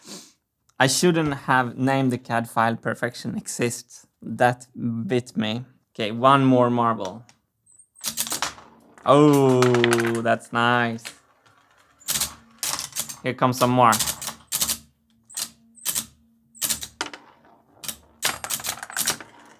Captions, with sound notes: I shouldn't have named the CAD file 'perfection exists'. That bit me... OK, one more marble. [marble rolls] Oh... that's nice. [ratcheting] Here comes some more. [marbles rolling down the lanes]